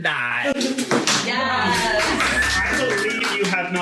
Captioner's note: cheering